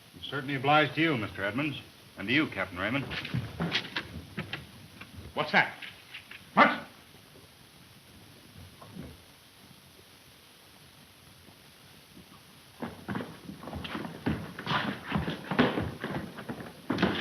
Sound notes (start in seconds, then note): 3.2 door clattering; 14.3 men scuffling